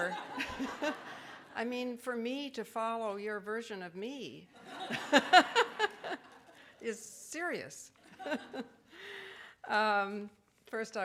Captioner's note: audience laughing; laughs; laughing